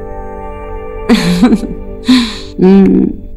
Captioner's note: Chuckling